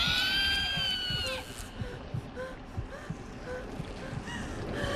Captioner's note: Maria panting